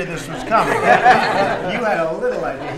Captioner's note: laughter